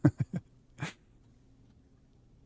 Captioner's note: chuckles